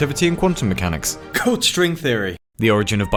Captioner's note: cough